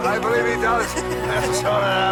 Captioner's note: Renee laughing